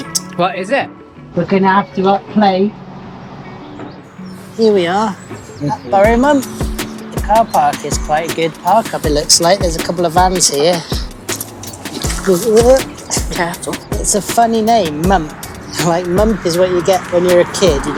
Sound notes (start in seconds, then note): 7.1 wind noise; 13.4 slipping over noise